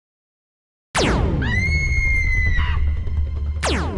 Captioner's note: laser blast; river song screaming; laser blast